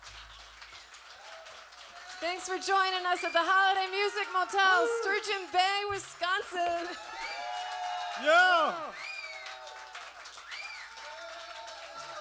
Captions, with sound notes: >> Thanks for joining us at the Holiday Music Motel, Sturgeon Bay, Wisconsin. >> Yeah! [cheers and applause]